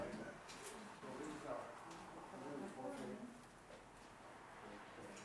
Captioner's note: participants chattering